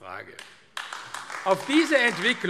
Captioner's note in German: Beifall AfD